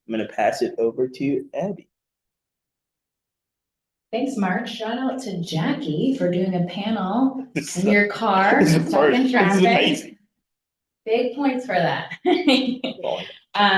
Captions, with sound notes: I'm gonna pass it over to Abbey. - Thanks, Marc. Shout out to Jackie for doing a panel in your car. (panelists chattering) Big points for that.